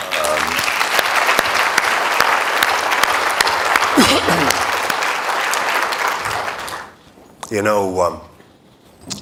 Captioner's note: applause